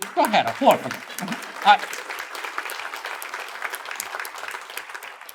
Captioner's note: attendees applaud